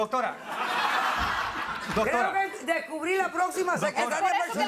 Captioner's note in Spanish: Risas